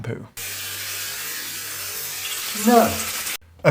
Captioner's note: water drizzling